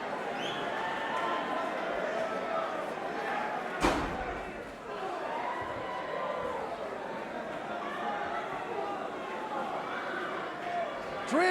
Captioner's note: crowd chatter